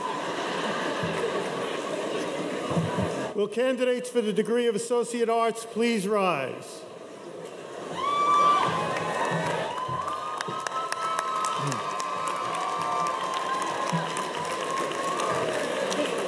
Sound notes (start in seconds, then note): 0.0 audience laughs; 7.8 audience cheers